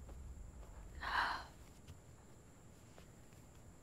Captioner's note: Sighs